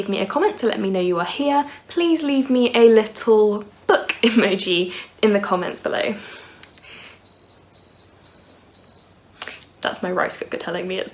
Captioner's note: beeping noise